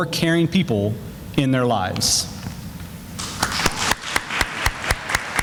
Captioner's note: sounds of applause